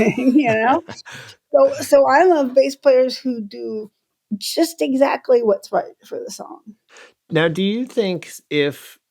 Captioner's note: laughter